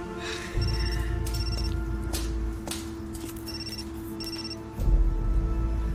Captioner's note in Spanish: Suena el celular